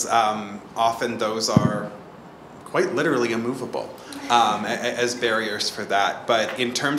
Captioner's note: laughs